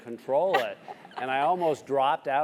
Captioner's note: laugh